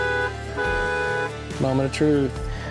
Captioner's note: horn Honking